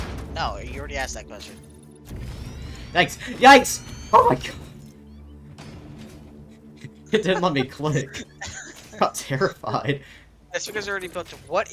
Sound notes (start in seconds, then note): 6.5 laughing; 9.7 still laughing